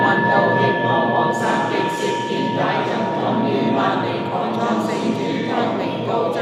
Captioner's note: chanting